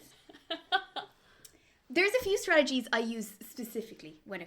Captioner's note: laughs